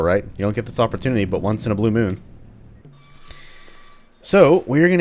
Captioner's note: door squeaks